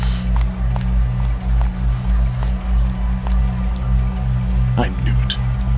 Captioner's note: Sound of chair scooting back, and Cythaelia's footsteps recede